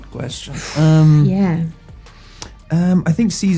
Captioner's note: sighs